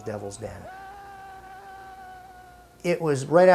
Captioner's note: screaming